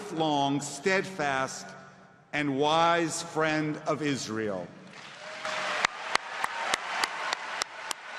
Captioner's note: applause